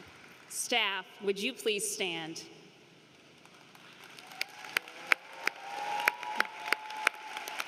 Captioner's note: applause